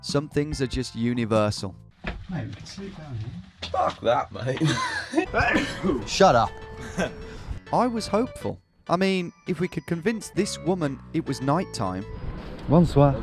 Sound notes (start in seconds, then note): 4.6 laughs; 5.4 sneezes